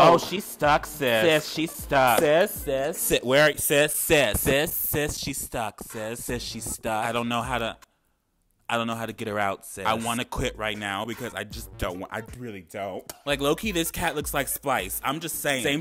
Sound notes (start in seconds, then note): 2.4 man stammering